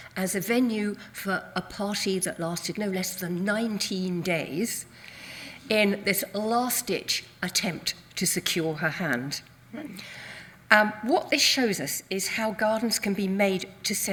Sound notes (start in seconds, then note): none